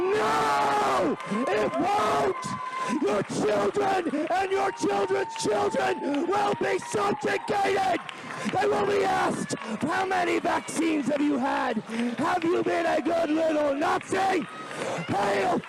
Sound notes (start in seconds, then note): 1.7 applause